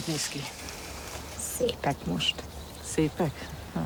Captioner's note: speaking in foreign language